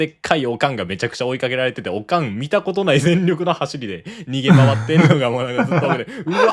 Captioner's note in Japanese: 笑い